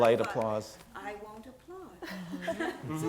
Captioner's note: laugh